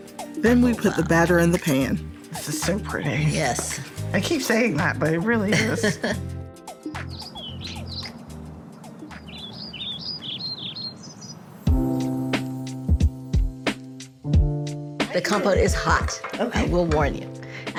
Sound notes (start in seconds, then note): 6.7 birds chirping